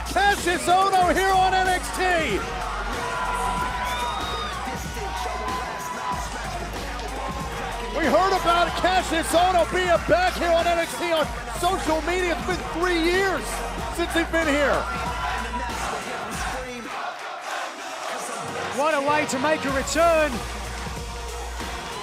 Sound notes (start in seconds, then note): 16.9 fans chanting